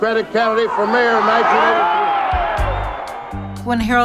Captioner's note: crowd cheering